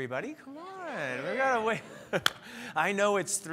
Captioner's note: clapping hands